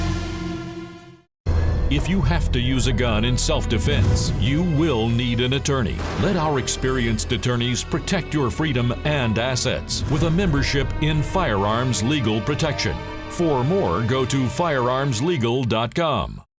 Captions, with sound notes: - [Voiceover] If you have to use a gun in self defense, you will need an attorney. Let our experienced attorneys protect your freedom and assets with a membership in firearms legal protection. For more, go to firearmslegal.com.